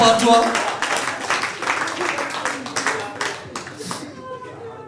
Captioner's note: audience applauding